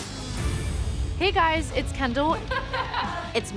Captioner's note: laughs